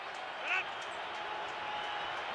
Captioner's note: crowd cheering